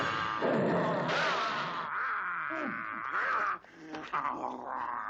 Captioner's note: gun banging